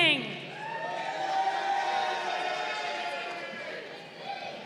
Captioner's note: crowd cheering